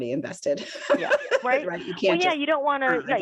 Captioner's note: laughs